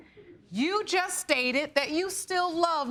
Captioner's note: laughs